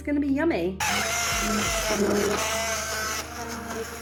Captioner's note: blender whirring